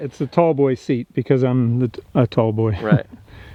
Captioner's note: laughs